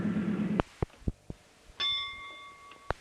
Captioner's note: bell Sound